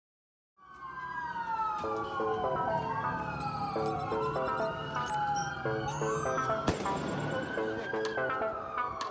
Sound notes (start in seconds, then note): 0.6 sirens wailing; 6.4 light music